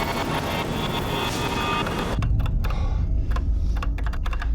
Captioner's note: typing sound